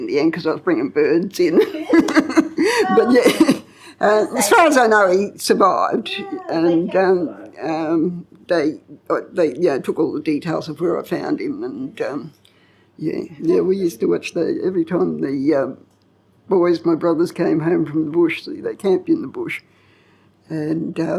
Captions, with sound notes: the end because I was bringing birds in. (LAUGHTER) But as far as I know, he survived. And they took all the details of where I found him. And yeah, we used to watch every time the boys, my brothers came home from the bush, so they camped in the bush.